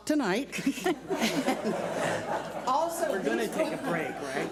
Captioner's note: laughing